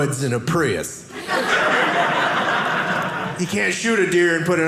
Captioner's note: audience laughing